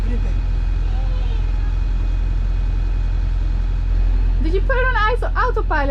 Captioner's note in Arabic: محرك القارب هدير